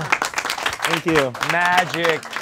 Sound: audience clapping

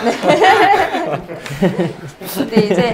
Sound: haha

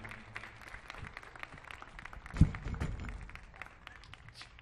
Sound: audience applauds

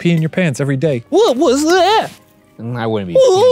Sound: scared childish voice

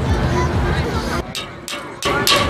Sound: pounding

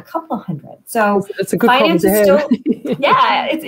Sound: laughter

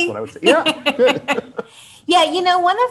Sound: both laugh

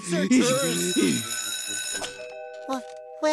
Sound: bell ringing

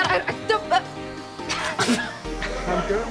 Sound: laughing

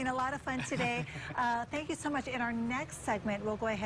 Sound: laughter

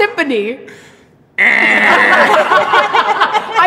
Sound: laughter

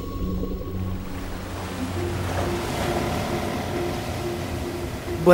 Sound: waves splashing

